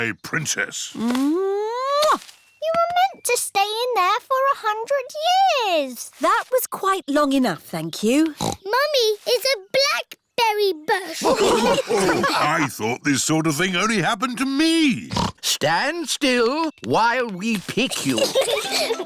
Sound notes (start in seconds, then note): 1.9 kisses; 8.3 snorts; 11.1 all laughing; 15.0 snorts